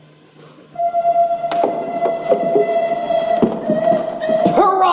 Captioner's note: train whistle